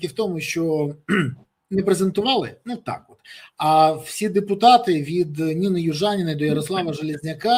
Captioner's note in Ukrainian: прочищення горла